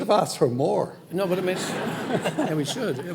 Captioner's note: audience laughing